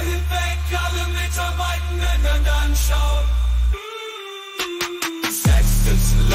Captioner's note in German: mmm mmm mmmmmmmm